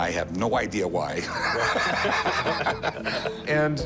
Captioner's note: both laughing